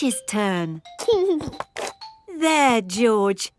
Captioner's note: giggling